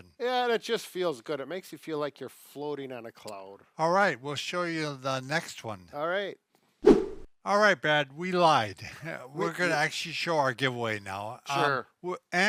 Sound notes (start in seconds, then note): 6.8 air whooshing